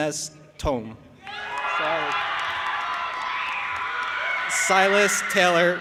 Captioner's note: audience applauding and cheering